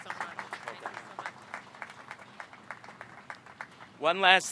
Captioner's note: applause